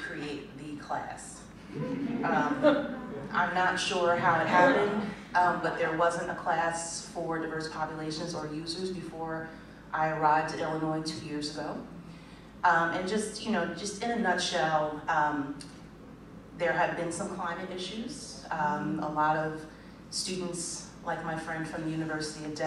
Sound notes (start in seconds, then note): 1.7 laughter